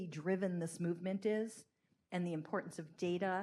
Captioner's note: none